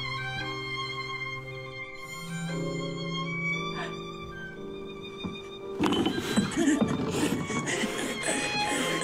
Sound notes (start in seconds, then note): 3.0 gasping